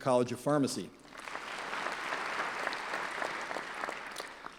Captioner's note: clapping